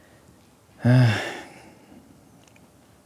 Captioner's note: sighs